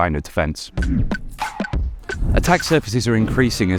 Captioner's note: air whooshing